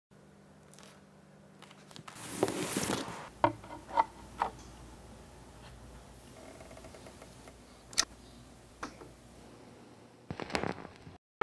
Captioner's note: sounds of record being placed on turntable